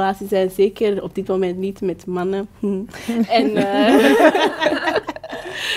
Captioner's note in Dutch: gelach